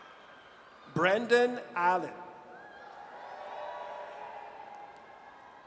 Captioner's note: audience cheers